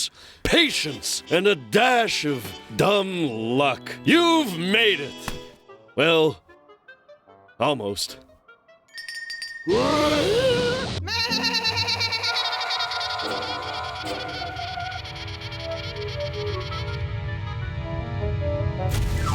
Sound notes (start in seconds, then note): 8.9 bell rings; 9.4 bleating loudly